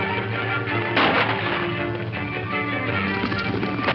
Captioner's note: guns firing